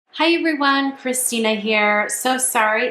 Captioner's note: voiceover